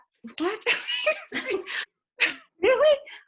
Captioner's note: laughter